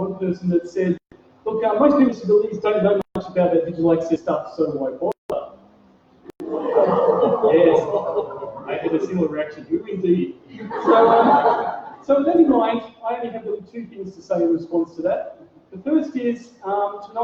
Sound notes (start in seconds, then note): 6.4 audience makes ‘ooh’ sound; 10.5 laughter